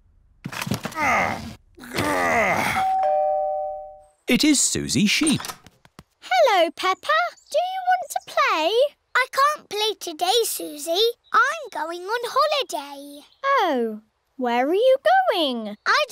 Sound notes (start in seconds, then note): 0.9 groans; 2.8 doorbell rings